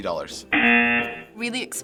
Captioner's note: rejection buzzer